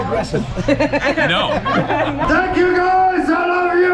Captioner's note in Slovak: smiech